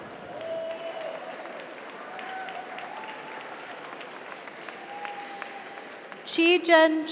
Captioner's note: audience cheers; audience applauds